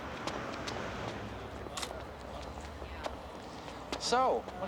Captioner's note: camera clicks